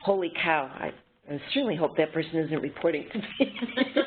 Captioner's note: laughter